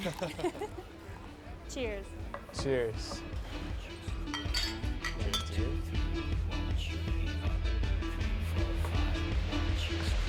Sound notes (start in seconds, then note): 4.2 clinking